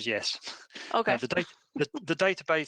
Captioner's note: laughing